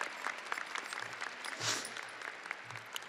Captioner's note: audience applauding